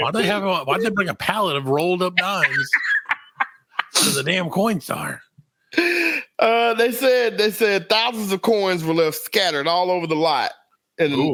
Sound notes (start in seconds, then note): 1.9 laughing